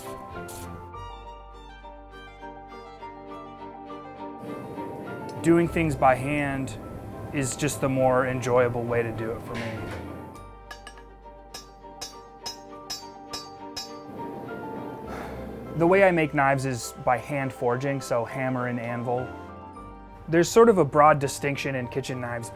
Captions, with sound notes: (uplifting orchestral music) Doing things by hand is just the more enjoyable way to do it for me. (hammer clanking on metal) The way I make knives is by hand-forging, so hammer and anvil. There's sort of a broad distinction in kitchen knives